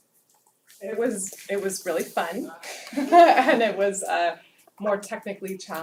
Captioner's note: laugh